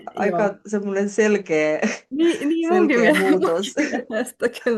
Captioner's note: naurua